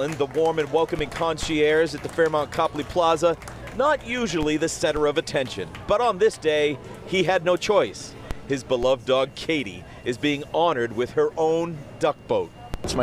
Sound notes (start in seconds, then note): 6.2 applause